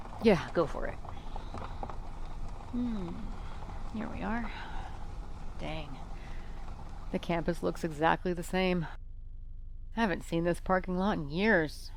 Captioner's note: the sounds of gravel crunch under the tires